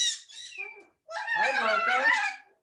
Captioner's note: parrots chirping